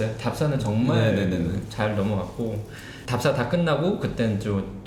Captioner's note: none